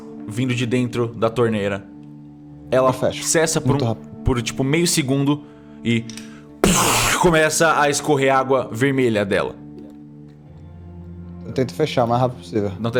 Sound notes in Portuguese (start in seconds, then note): 6.6 pfff